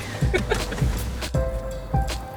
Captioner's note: man laughs